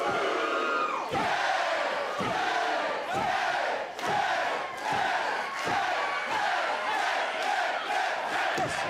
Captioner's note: cheers